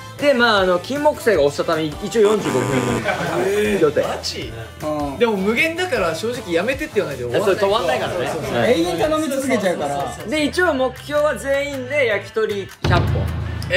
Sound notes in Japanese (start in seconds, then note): 2.2 不正解の音